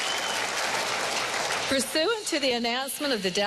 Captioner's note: applause